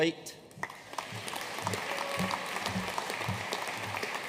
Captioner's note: audience applauding